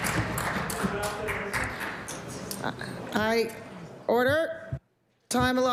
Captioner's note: cheers & Applause